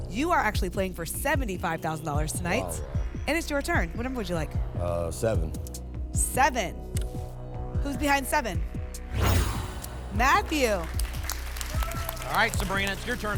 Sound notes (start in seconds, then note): 9.0 whoosh; 10.1 applause and cheering